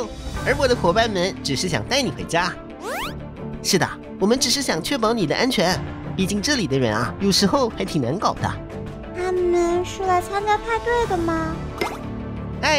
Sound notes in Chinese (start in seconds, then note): none